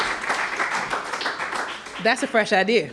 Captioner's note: applause